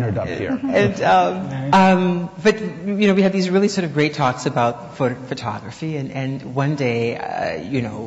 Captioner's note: laughs